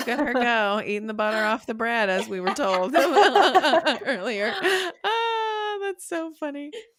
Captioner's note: laughing